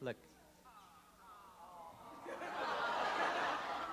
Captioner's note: laughter